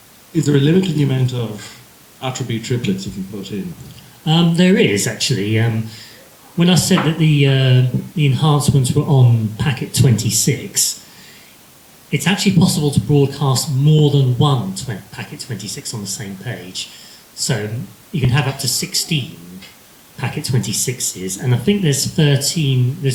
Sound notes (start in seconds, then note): none